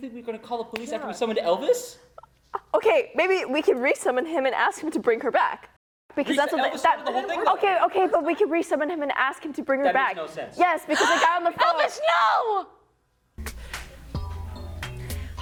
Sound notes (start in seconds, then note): 11.1 gasps